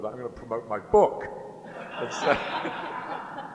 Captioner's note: laughter